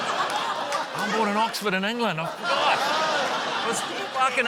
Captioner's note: laughter; laughter